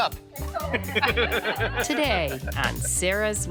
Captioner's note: laughing